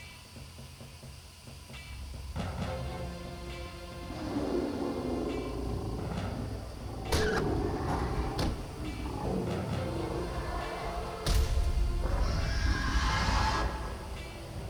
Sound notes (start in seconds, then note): 4.8 dramatic music; 4.8 roars